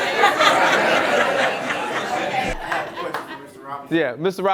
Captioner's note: audience laughter